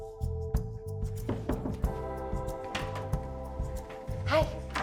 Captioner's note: door knocking